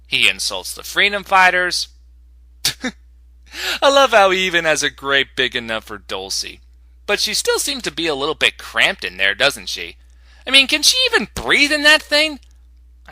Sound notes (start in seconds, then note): 2.6 snicker